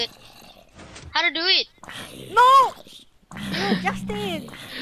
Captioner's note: zombie Growls